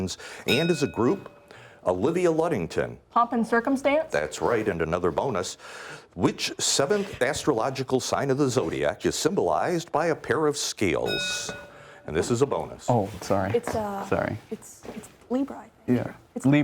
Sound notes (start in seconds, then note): 11.0 bell rings